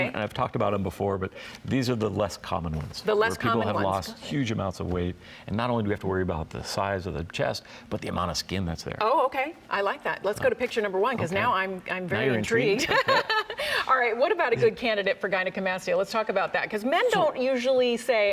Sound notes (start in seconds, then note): 12.8 both laughing